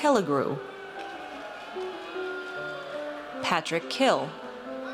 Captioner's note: audience cheers